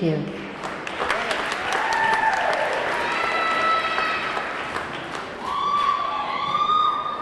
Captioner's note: audience clapping; audience cheering